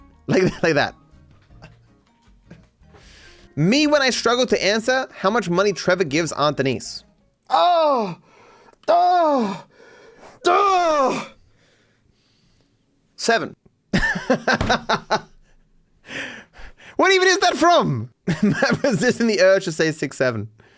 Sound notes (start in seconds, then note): 13.9 laughs